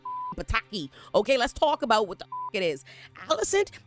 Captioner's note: beep; beep